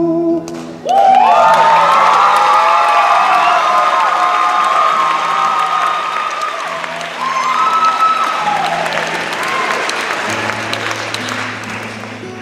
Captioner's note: cheers and applause